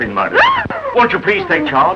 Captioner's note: screams of horror